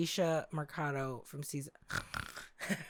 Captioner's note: snore